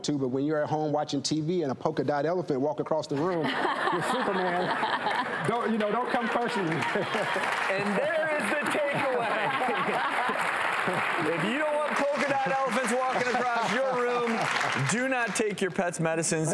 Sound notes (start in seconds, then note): 4.7 audience laughing; 9.8 audience applause